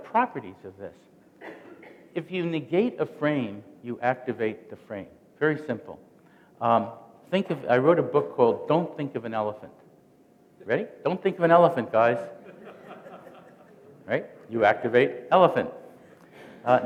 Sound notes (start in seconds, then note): 12.3 laughter